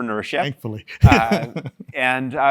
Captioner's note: laugh